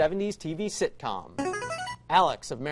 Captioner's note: buzzer